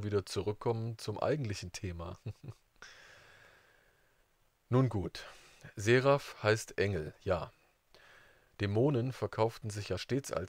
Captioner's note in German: lacht